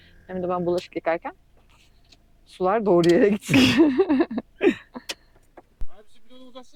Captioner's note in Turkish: kahkaha